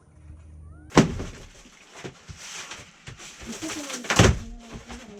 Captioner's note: crushing Cardboard